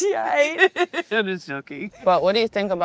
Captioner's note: laughing